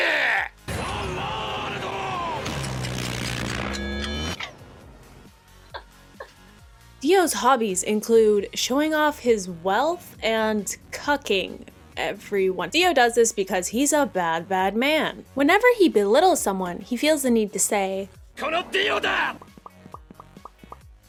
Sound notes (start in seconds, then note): 5.7 quietly laughing